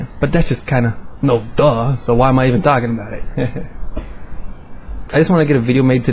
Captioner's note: haha